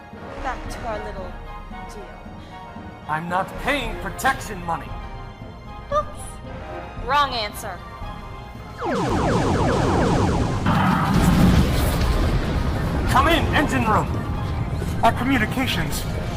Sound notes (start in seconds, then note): 8.8 ray Blasts; 10.5 crash, Explosion